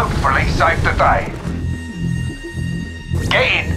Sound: static whirring

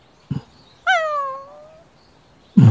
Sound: whimper

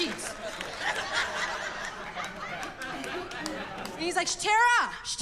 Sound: laughter

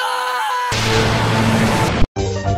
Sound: that sweet epic sound again

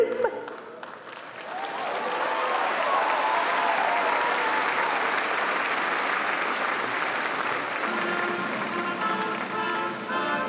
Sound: applause and cheering

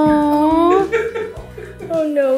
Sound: laughs

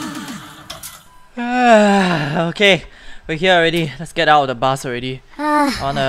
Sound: yawns

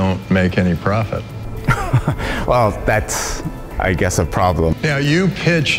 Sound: laughs

